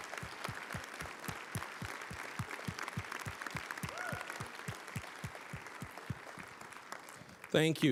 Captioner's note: applause, cheering; applause